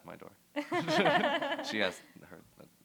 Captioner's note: laughter